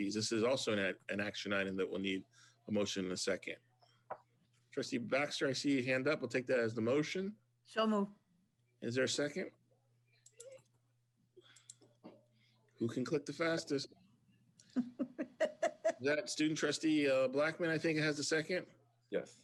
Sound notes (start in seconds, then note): 14.7 laughs